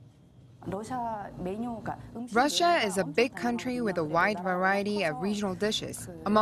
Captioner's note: Korean